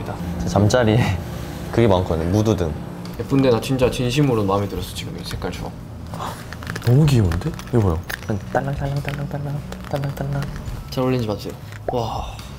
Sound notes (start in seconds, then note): 9.6 jingling